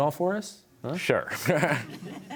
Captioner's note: laughter